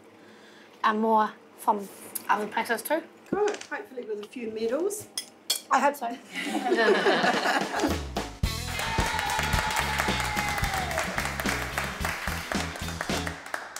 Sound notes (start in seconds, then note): 6.4 laughing; 8.4 applause and Cheering